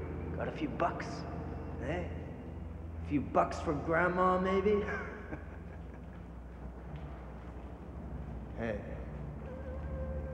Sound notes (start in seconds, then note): 4.7 chuckles